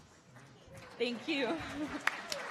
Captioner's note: audience applauding